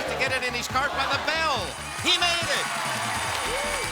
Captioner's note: bell rings; audience applause